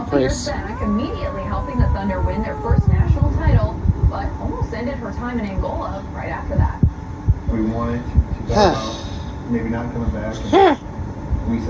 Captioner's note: continues to growl